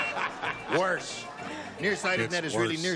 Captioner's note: laughter